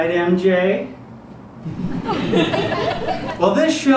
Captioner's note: audience giggles